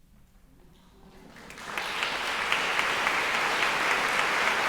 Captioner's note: audience applauding